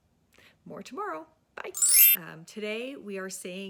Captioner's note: chiming